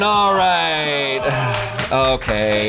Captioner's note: colleagues gasping